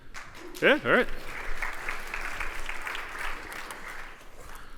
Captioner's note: applause